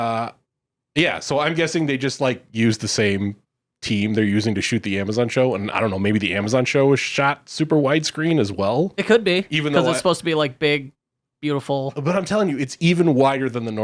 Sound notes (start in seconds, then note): 9.7 laughs